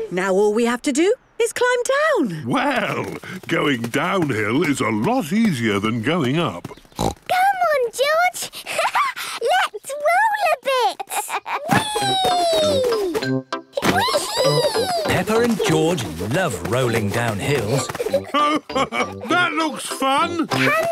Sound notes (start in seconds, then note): 6.6 snorts; 10.7 laughs